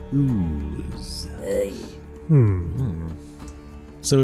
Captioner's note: Dabarella noise of disgust